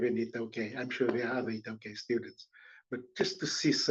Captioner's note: non-english